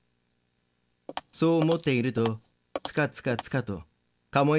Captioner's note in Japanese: ハイヒールの足音：カツカツカツ